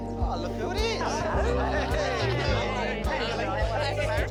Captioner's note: all chuckle, greet each other